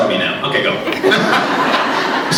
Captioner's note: laughs